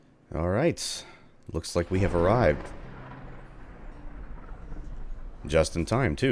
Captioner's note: thunderclap